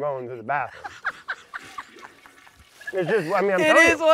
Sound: laughs

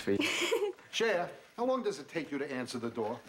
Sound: giggling

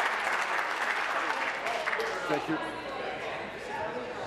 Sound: applause

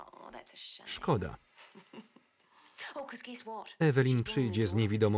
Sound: laugh loudly

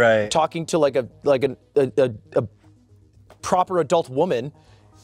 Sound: stutters

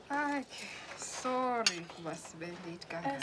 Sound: speaking Swahili

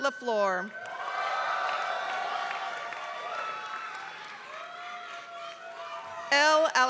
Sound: applause

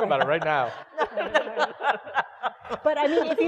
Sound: laugh

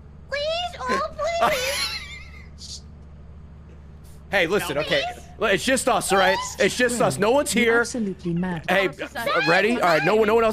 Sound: laughs

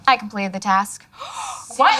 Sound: gasping

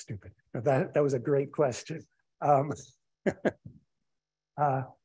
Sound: laughs

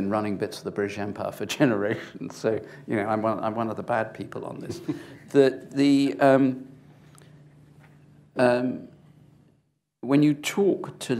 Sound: chuckles

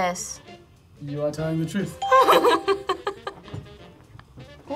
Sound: laughs

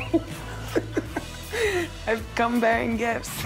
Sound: laughing

